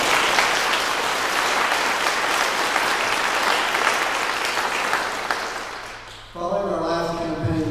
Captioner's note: clapping